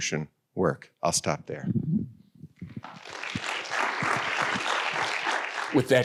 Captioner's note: audience applauding